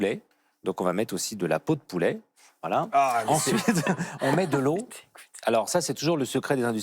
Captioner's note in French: rires